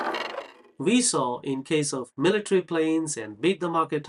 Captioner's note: loud sound of falling dice